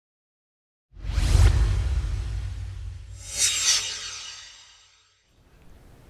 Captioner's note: swoosh